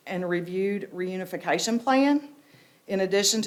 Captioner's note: none